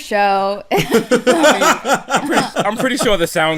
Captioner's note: laughs; laughter